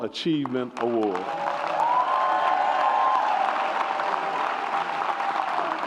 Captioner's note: audience applauds and cheers